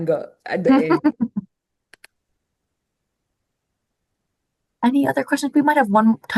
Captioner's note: chuckles